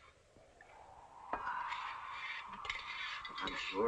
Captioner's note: wind blowing